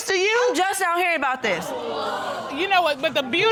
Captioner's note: audience exclaiming